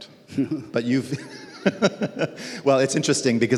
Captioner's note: laughs